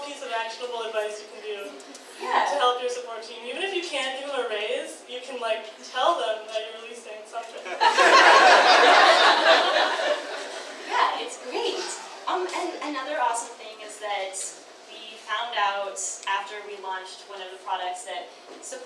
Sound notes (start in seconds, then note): 7.7 audience laughs